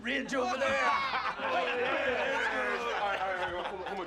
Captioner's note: all laugh